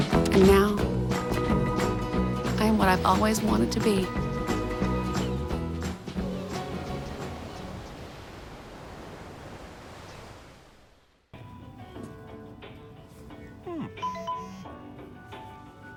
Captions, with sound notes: AND NOW I'M WHAT I'VE ALWAYS WANTED TO BE. HMM. [CELL PHONE TONE]